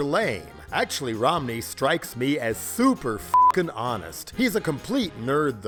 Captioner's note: beep